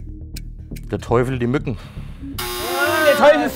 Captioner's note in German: Uhrenticken